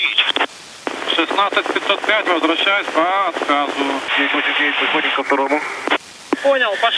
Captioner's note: foreign language transmission